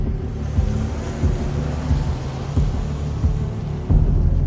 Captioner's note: engine revving